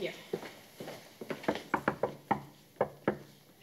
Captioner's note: knocking